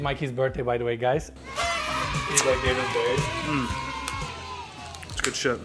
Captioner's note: all cheering; party horn blowing